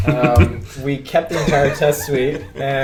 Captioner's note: laughs